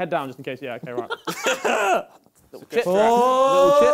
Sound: laughter

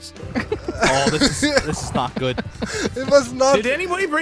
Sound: nervous laughter

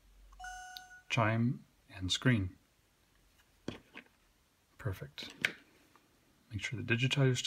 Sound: ~chime~

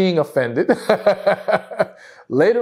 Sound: laughs

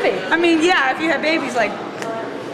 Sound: snaps fingers

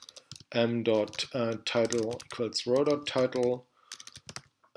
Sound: typing

